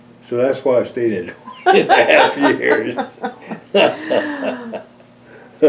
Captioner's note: laughter